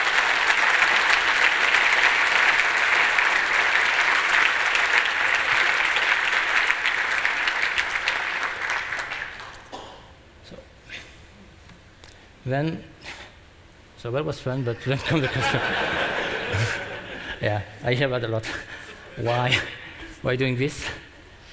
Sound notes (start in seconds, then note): 2.0 applause; 14.8 laughter